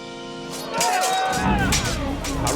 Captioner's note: battle sounds